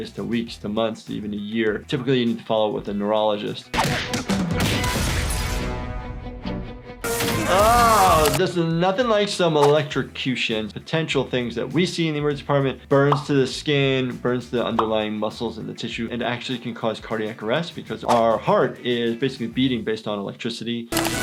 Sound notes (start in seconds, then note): 4.7 glass smashing; 7.0 electricity pulsing